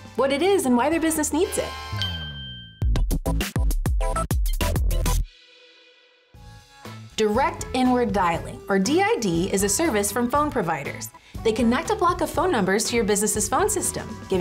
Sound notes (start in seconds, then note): 1.9 bell chimes; 2.8 funky music; 6.6 upbeat music